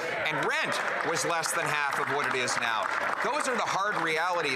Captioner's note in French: voix de l'interprète